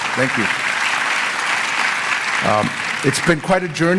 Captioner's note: applause